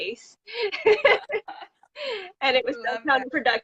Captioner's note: laugh